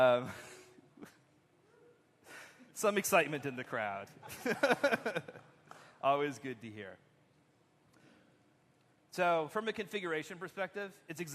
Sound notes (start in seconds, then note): 4.2 laughter